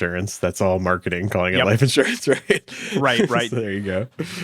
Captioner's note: laughs